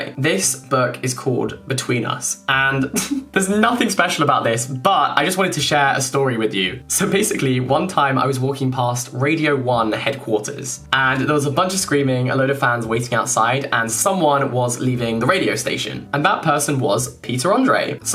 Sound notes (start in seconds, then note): 2.7 snorting chuckle